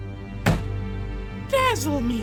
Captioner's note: slam